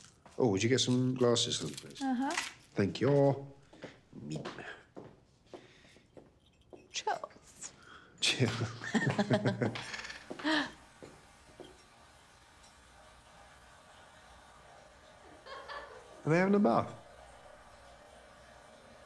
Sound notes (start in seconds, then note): 11.6 water running; 15.4 giggling